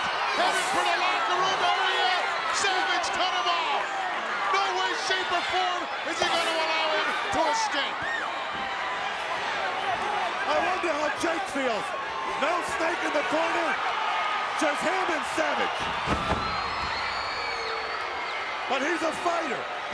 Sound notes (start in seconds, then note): 7.9 crowd yelling; 15.8 Jake the Snake thuds